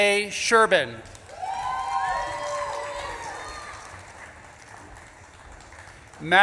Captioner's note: audience claps and cheers